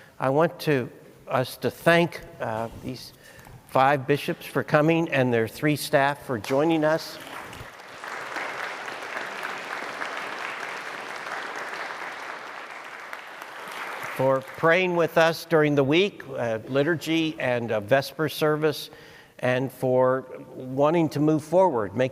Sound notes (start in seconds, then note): 6.5 audience applauds